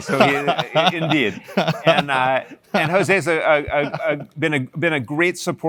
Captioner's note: laugh